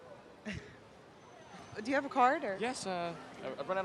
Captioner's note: laughs